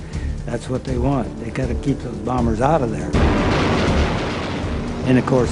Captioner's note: machine gun fire